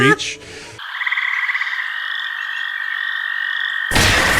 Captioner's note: crickets